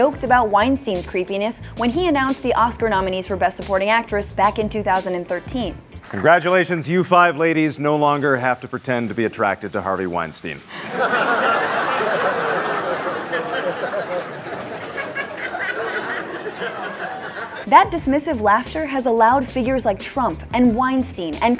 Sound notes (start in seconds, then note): 10.7 laughter